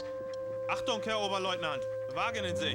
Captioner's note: speaking german